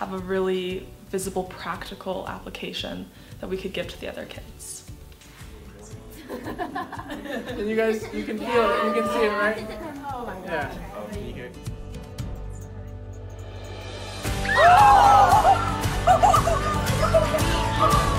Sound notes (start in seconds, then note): 6.1 kids laughing; 11.4 upbeat music; 14.4 kids cheering